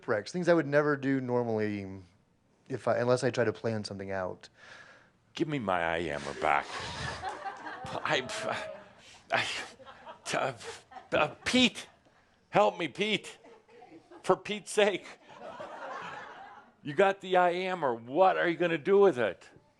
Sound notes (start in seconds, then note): 6.4 laughter